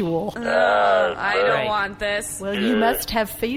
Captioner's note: babbling noises